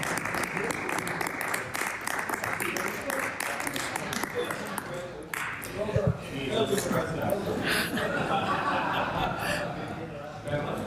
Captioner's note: applause